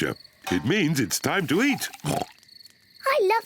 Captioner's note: oinks